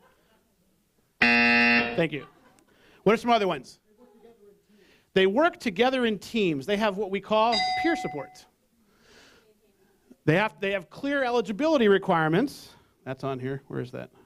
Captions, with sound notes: [Buzz]. Thank you. What are some other ones? They work together in teams, they have what we call [bell] "peer supports". They have clear eligibility requirements, that's on here, where is that?